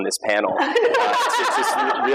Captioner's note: laughter